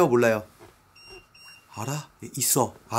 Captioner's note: beeping